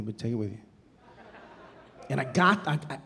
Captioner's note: audience laughing